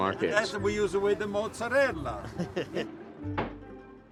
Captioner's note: vendor speaking